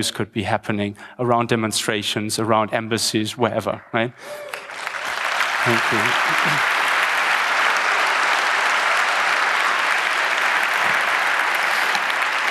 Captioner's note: applause